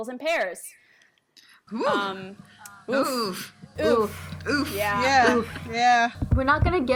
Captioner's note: chorus of oof